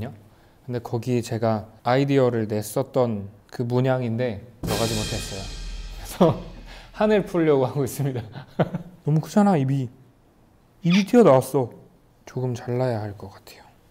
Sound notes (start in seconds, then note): 8.3 hahaha